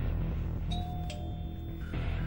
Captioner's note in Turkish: kapi zi̇li̇ çaliyor; geri̇li̇m müzi̇ği̇ çaliyor